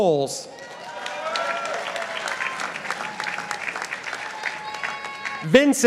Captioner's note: participants applauding